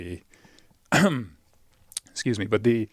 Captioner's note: coughs